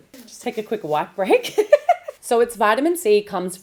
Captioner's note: laughs